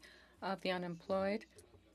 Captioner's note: speaking French